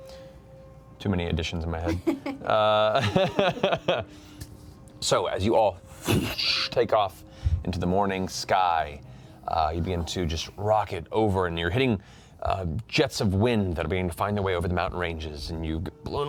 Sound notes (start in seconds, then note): 1.8 laughs